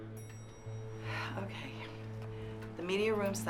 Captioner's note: sighs